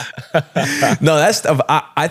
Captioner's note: laughing